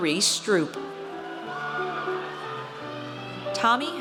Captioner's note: audience cheers